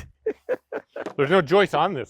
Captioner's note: speaker laughing